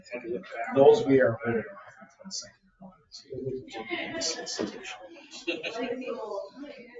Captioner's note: speaks distantly